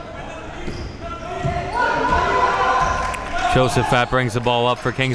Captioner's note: audience yelling